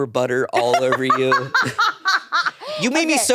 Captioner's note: laughs